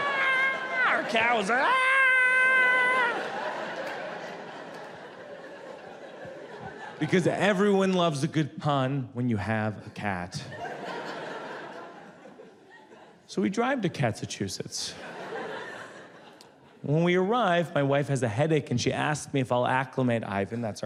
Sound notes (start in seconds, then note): 2.3 audience laughs; 14.9 audience laughs